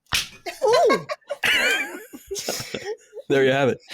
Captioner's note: smack!